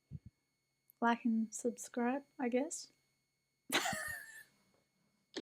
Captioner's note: laughs in convincing